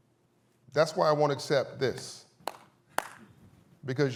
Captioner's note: weak applause